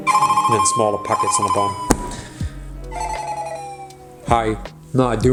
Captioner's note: phone ringing